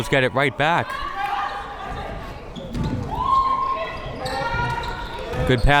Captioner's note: crowd members shouting